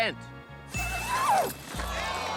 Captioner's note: ding!